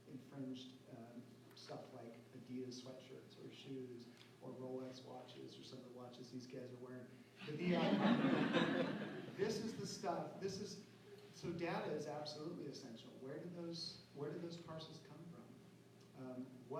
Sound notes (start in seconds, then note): 7.5 laughter